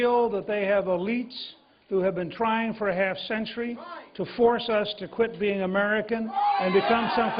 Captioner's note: cheers and applause